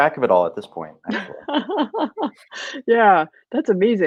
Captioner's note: laughing